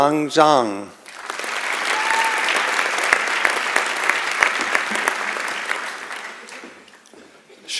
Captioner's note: applause